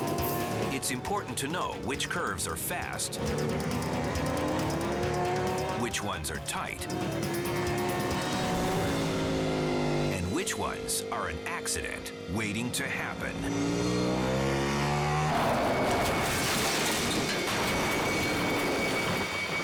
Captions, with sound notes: It's important to know which curves are fast, which ones are tight, and which ones are an accident waiting to happen. (engine revving) (motor cycle crashing)